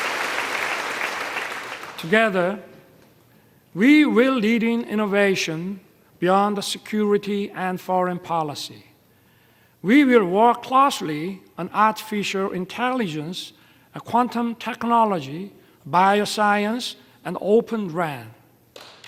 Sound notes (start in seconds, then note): 0.0 applause